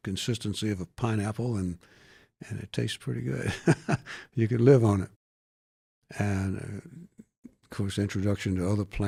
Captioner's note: laughs